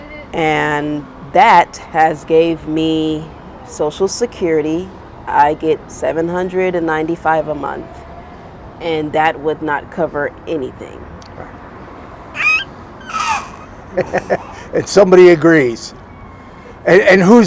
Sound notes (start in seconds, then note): 12.3 baby squeals